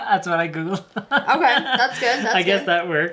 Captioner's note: laughing